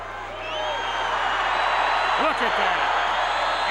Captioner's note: crowd cheers